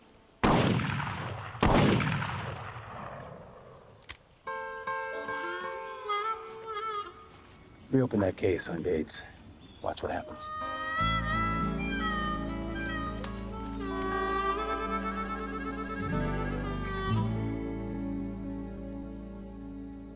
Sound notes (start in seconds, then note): 0.4 gunshots fired; 3.9 clicking sound; 4.4 harmonica music; 10.0 harmonica music